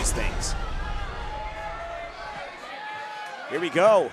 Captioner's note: audience cheering